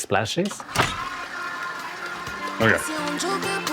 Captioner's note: KitchenAid mixing